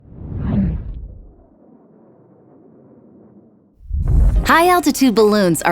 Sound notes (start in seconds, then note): 0.3 air swooshing